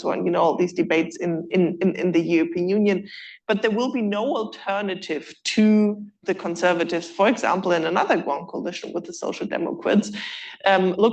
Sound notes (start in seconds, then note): none